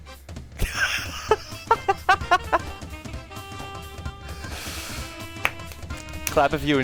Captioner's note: laughing really hard; clapping